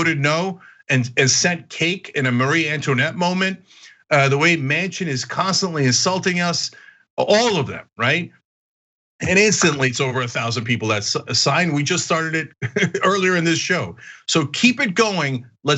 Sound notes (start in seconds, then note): 12.6 laugh